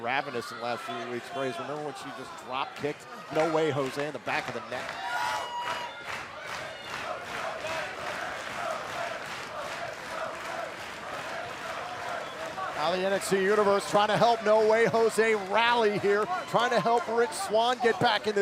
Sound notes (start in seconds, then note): 6.6 crowd cheering